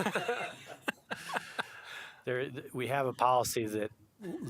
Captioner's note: laughter